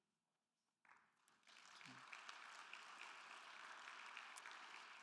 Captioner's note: attendees applauding